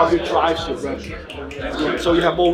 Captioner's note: fingers snapping